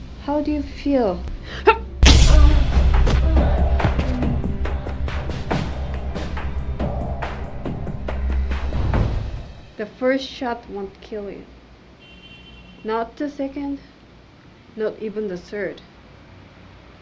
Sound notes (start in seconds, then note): 2.0 punch thudding; 2.0 tense music